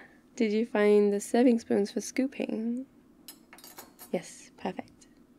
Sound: spoons rattle

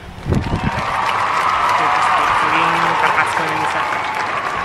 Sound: crowd applauding

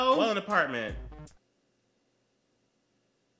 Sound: awkward silence

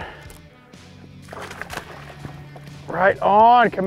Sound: water splashing

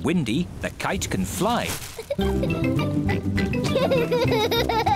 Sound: giggles

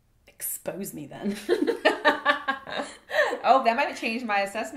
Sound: laughs

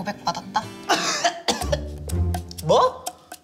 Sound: coughing

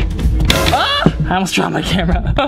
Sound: smacking noise; screams

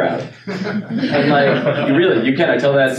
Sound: laughing

